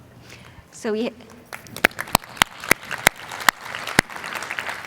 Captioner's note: applause